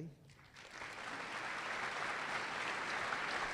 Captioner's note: applause